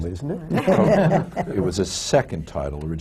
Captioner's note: laughter